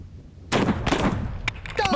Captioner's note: gunshots